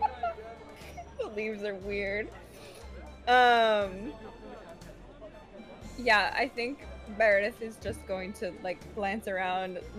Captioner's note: laughs